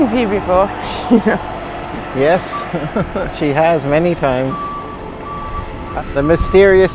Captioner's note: chuckles